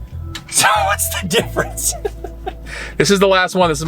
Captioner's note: laughing